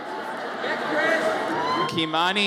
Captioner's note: audience chattering